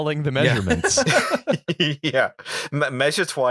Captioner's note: laughter